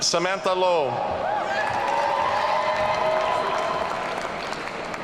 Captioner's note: audience cheering